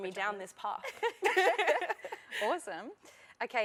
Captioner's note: laughter